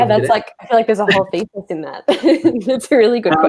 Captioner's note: all laugh